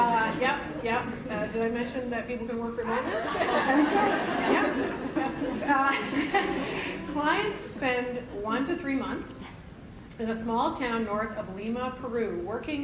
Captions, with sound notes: Did I mention that people can work remotely? (laughter) Clients spend one to three months in a small town north of Lima, Peru working,